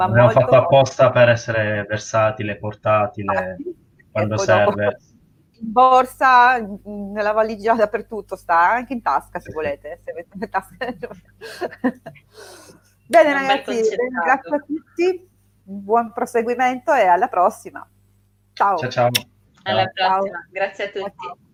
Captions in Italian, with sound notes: molto. Abbiamo fatto apposta per essere versatile, portatile, quando serve in borsa, nella valigia dappertutto sta anche in tasca se volete, se avete tasche. [risate] Bene ragazzi, ringrazio a tutti, buon proseguimento e alla prossima. Ciao ciao. Ciao. Alla prossima. Grazie a tutti.